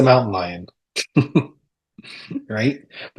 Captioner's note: chuckles